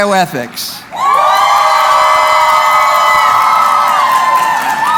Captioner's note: cheering